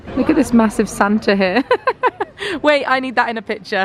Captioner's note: laughs